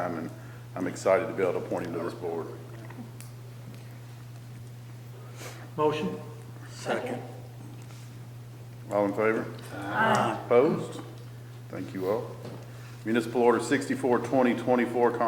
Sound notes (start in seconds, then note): none